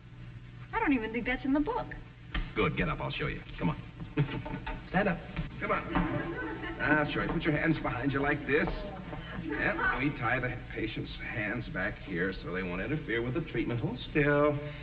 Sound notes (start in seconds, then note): 8.9 audience snickering